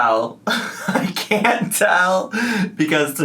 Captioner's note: laughs